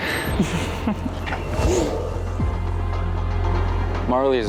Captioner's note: laughs quietly